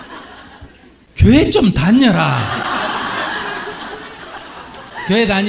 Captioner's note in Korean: 청중 웃음; 질문자와 청중 웃음